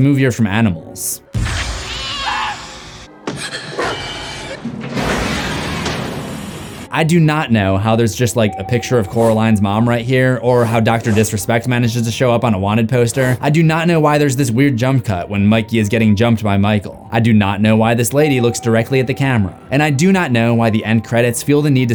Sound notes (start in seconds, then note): 3.7 screams